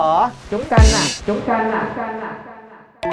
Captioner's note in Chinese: os：喂喂喂喂喂呀～～～～～～